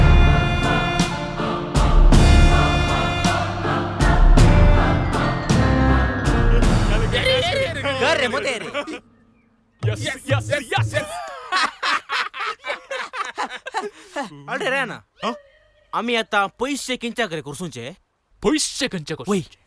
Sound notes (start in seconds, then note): 9.9 laugh